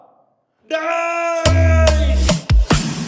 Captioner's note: super scream